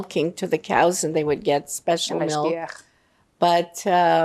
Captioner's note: hebrew